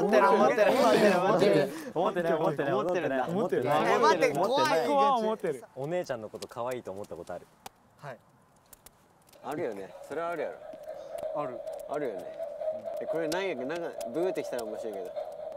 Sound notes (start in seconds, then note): 11.2 confident